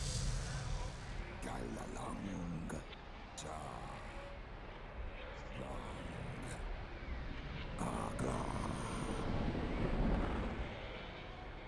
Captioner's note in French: conversation en Vortiguese